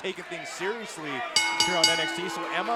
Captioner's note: bell ringing